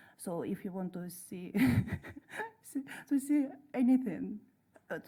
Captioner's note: laughs